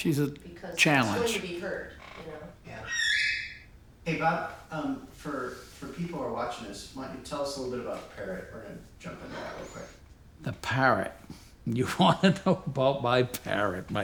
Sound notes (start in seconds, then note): 2.8 bird calls; 12.0 chuckles